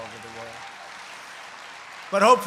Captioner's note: applause